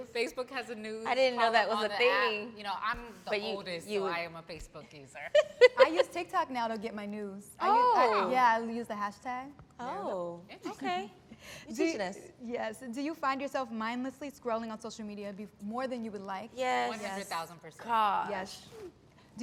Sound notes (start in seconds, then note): 5.4 laughs